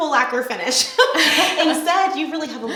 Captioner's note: laughing